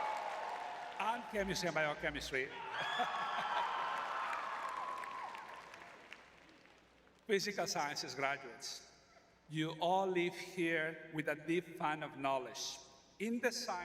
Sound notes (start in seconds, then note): 0.0 audience cheering; 3.0 laughs